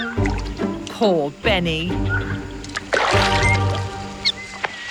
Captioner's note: splashing